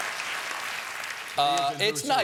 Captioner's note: applause